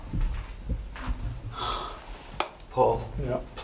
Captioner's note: quiet humming